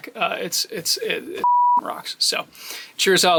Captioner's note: beep